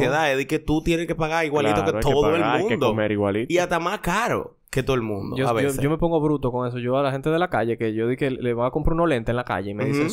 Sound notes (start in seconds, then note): none